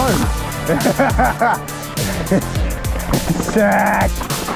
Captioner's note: laughs